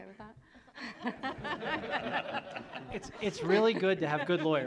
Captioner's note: audience laughs